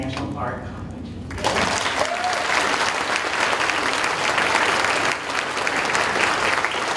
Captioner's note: audience cheering and applauding